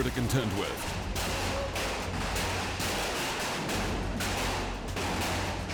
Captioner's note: raining hail on metal